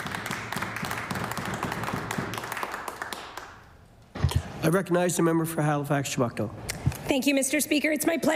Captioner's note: applause